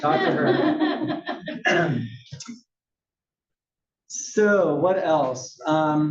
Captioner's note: laugh; cough